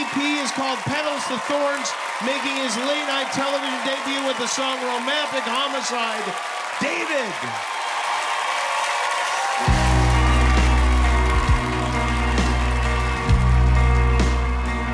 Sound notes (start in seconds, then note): 8.0 applause